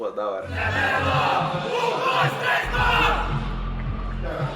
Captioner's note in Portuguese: grito de guerra